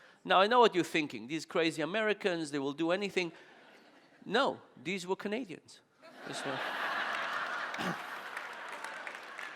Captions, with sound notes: Now I know what you're thinking, these crazy Americans they will do anything. (audience laughing) No, these were Canadians. (audience laughing)